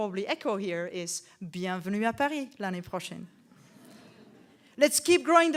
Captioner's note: speaks in French